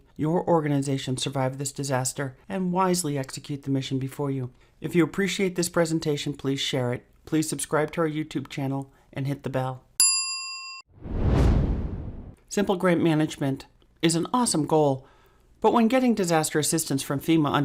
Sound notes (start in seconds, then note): 10.0 bell rings; 10.9 whoosh